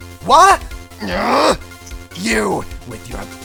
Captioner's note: growls